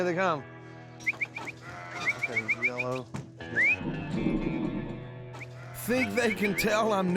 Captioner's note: whistling